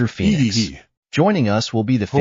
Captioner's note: hehehehe!